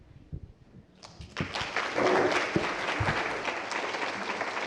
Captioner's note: applause